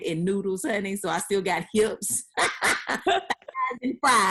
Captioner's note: laughing